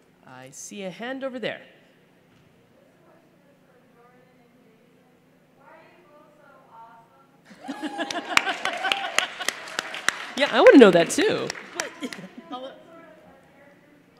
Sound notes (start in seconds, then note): 7.5 laughter; 7.6 applause